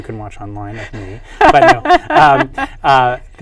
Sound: laughs

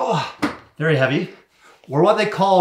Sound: speaker groaning

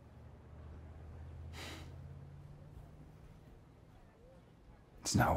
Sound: sighs

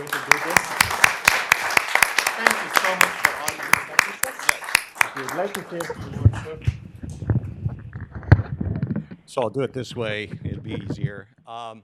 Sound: applause

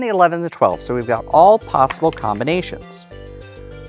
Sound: dice clattering

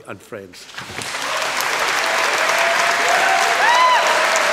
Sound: applause

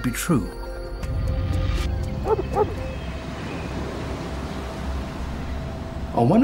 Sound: dog barks

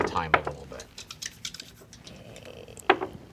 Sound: rolling dice

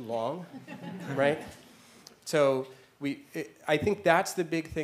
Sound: laugh

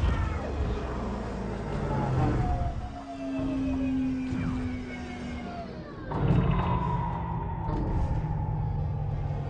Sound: engine powers down

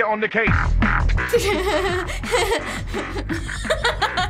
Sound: electronic music; laughing

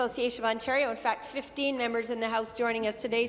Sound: none

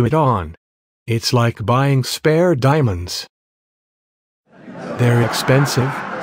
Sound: laughter

